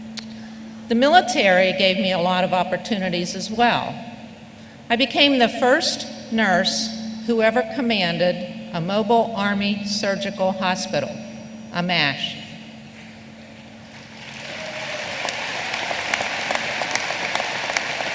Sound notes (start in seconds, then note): 14.2 applause